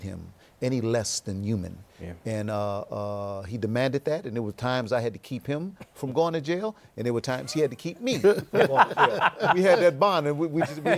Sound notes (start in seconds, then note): 8.0 laughter